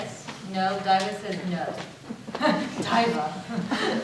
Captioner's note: laughs